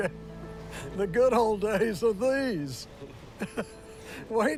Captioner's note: laughs